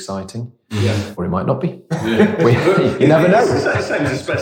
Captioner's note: laughs